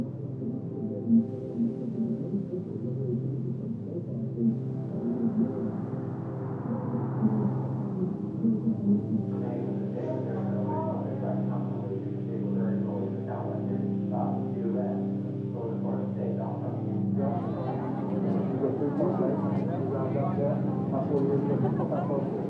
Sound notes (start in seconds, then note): 9.4 people chattering; 9.4 soft music; 17.3 people chattering; 17.3 soft music